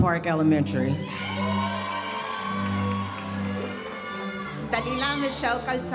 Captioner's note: audience cheering and applauding